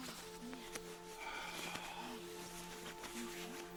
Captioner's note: Bruce exhales